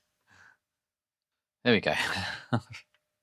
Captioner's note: laughs